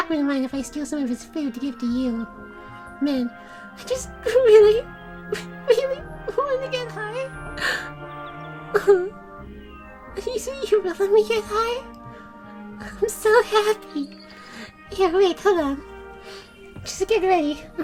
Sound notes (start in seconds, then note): 4.4 starts crying; 7.6 gasp